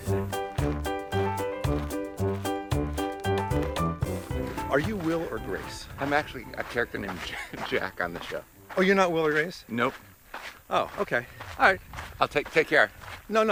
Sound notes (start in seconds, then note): 0.2 whimsical music; 7.2 laughs